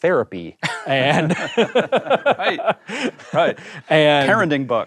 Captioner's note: laughs